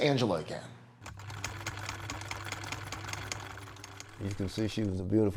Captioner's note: sewing machine whirring